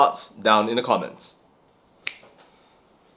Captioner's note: clap